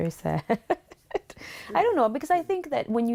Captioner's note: laughter